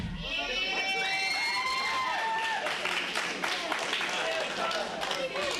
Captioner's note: applause